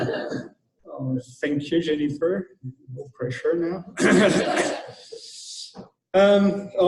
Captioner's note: laughter